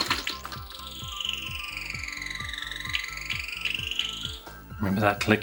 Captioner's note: whining and Clicking From Computer Game